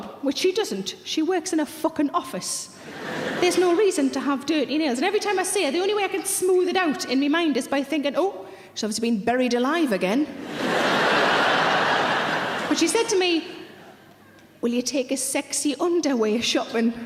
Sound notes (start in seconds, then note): 2.8 audience laughing; 10.4 audience laughing